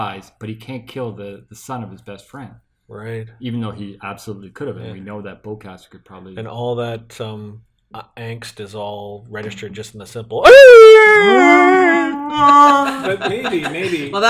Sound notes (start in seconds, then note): 10.4 wookiee howl; 12.1 Chewie howl